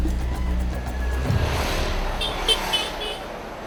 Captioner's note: motorcycle horn